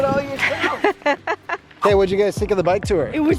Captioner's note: laughing